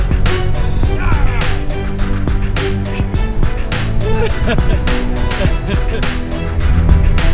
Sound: laughs

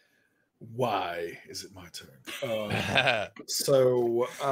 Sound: laughing

